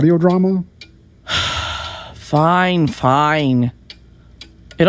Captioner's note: sighs